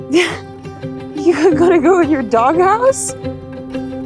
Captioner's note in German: skurrile Instrumentalmusik; lacht